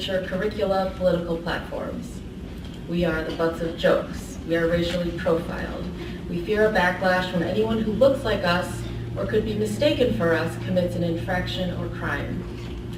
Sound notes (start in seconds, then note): none